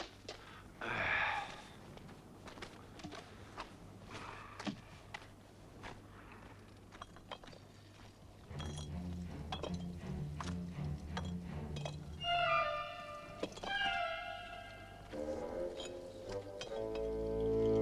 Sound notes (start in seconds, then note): 0.4 Torente sighs; 9.2 dramatic music